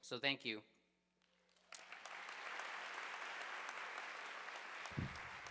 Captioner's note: audience applauding